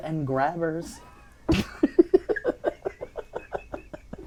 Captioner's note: laughing